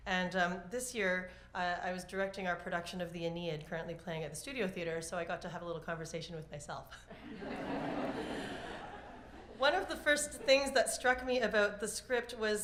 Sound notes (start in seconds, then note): 7.0 laughter